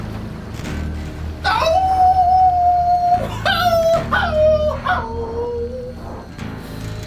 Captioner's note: bizarre howling